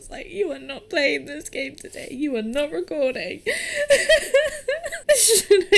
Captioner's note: laughs